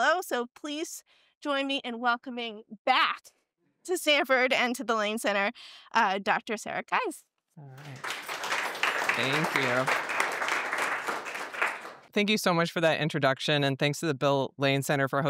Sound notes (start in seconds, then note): 7.7 applause